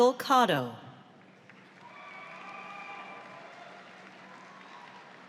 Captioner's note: audience applauds